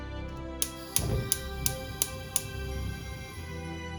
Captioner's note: gas Clicking